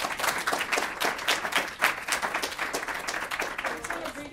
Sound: audience applauds

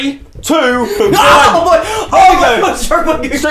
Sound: screams

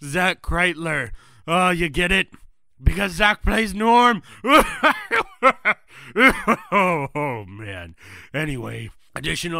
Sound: laughs

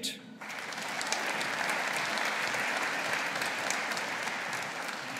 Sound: audience applauding

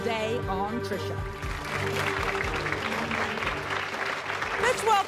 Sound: audience applauding

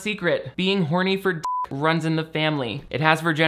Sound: beep

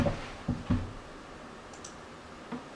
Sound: mouse Click

